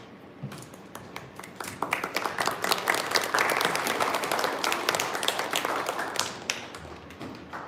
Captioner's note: applause